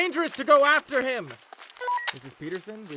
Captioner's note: walkie-talkie static